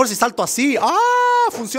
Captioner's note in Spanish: gemidos